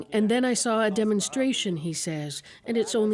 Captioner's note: speaking alternate language